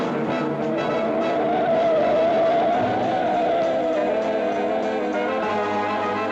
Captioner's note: suspenseful jazz music; tires squeal; suspenseful jazz music